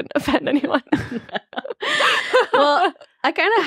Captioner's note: laughing